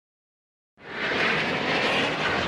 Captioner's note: jet whooshing